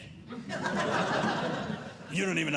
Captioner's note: audience laughing